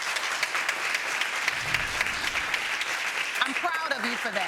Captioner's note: applauding